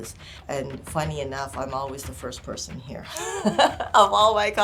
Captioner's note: laughter